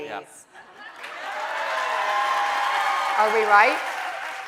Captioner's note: audience cheering